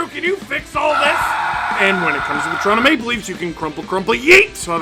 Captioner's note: screaming